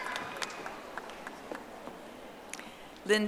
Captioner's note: audience applauding